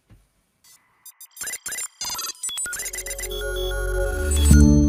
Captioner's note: electronic tones